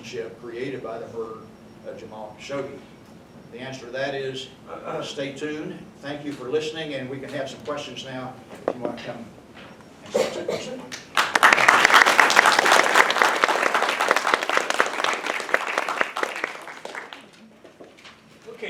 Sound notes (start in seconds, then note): 13.9 clapping